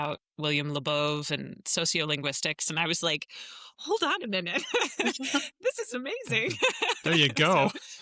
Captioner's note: laughs